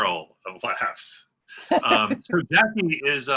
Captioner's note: laughter